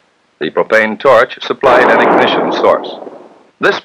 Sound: sound of Explosion

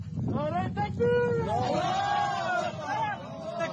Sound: men yelling

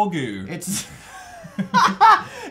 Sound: laughs

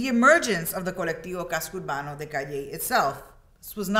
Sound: speaks in Spanish

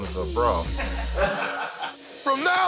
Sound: laughter

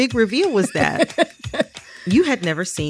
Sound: laughter

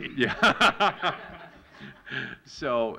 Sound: laughter

